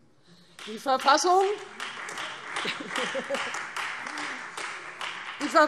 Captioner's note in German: Beifall